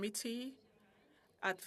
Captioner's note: speaking French